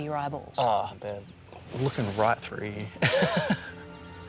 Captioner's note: laughs